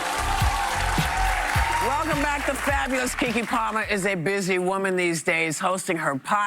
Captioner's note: applause